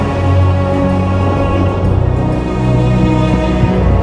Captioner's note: distant thunder